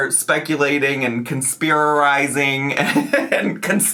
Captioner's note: laughs